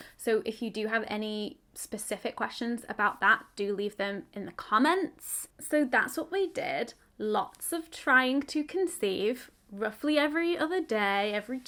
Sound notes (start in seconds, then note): none